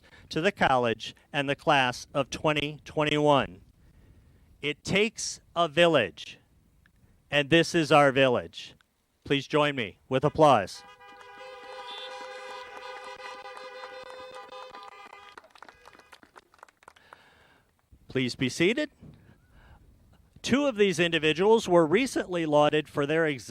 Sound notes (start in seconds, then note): 16.7 applause